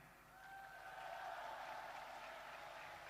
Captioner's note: applause